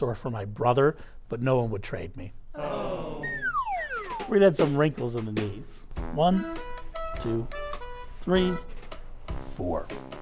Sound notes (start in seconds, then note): 2.6 audience sighs; 3.2 slide whistle toots